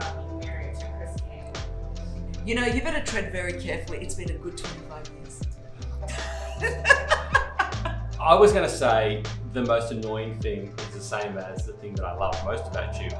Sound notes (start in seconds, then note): 6.0 laughing